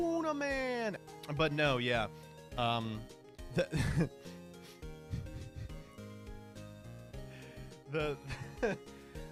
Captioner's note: laughing